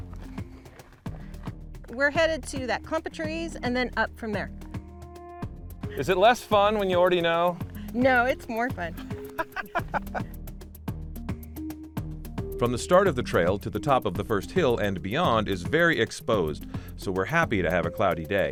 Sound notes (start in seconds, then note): 9.2 laughs